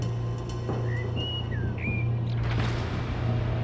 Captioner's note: bird chirps